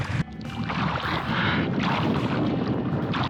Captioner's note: splashing sound of waves